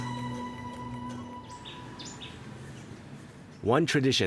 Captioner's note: birds chirping